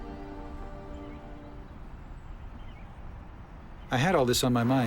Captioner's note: birds chirping